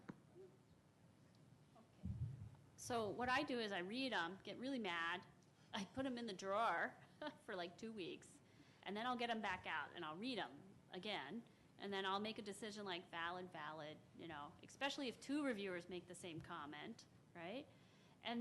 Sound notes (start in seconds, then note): 6.7 chuckles